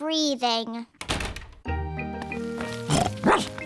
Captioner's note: door shuts; snorts; barks